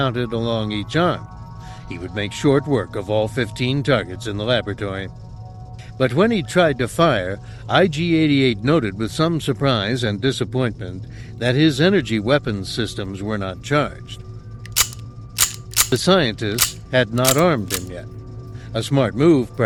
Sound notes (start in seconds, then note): 14.6 sound of empty weapons clicking